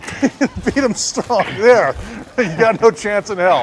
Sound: chuckling

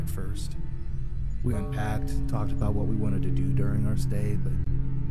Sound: clock Chime

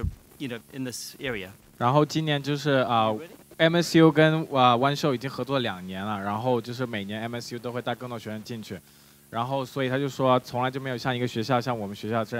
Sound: speaking in Mandarin

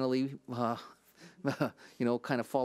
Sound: chuckles

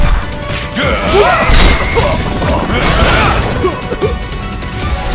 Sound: cough

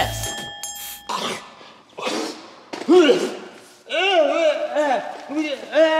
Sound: coughing

